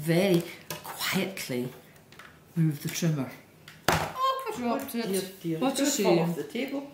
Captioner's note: bang!